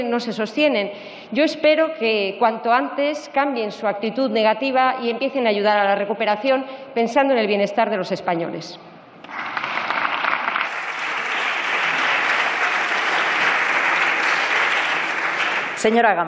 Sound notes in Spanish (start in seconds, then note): 12.5 Aplausos